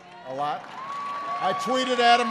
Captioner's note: applause